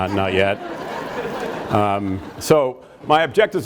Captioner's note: audience laughs